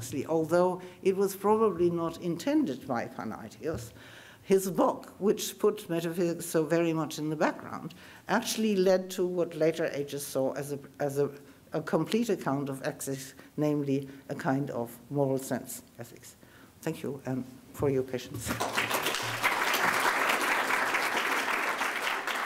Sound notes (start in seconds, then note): 18.5 audience applauding